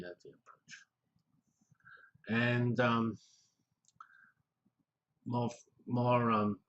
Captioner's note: pause